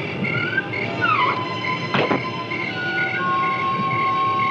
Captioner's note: door creaking